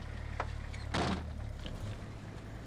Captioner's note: car door slams